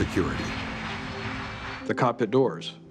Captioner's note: jet engines droning